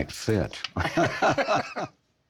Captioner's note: all laughing